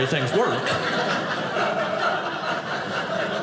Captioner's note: audience laughing